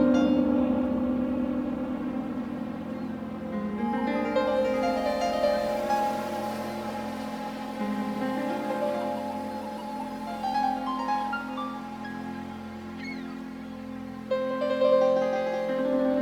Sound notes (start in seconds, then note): 0.7 gentle music; 5.1 waves crashing; 12.6 gulls squawking